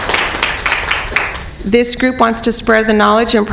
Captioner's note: applause